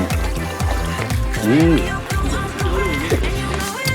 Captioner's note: lip-smacking